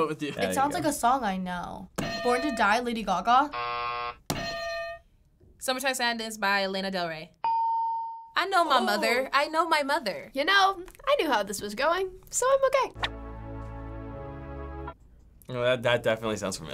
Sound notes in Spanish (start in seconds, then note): 3.4 buzzer; 7.4 ding; 13.0 synth